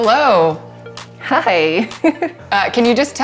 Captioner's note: laughs